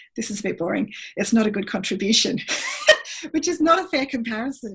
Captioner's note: laughs